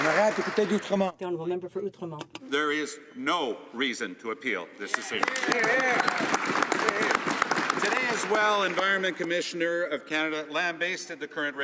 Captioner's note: some Applause